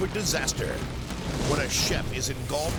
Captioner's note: fire exploding